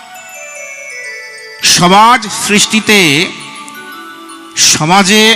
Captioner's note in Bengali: ঘণ্টা